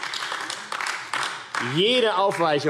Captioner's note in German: Beifall AfD